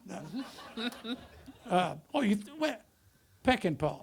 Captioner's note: audience laughter